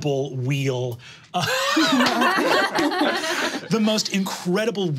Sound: all laughing

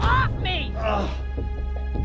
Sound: groaning

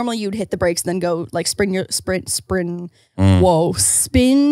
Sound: stuttering

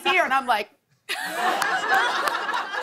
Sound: laughter

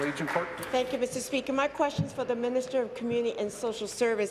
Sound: applause

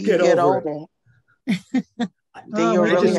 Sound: laughing

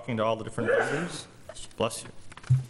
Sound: sneezing

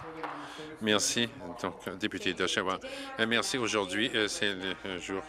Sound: some Applause

